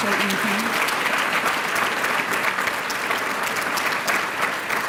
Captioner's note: applause